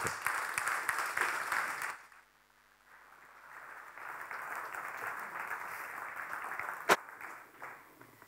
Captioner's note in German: Applaus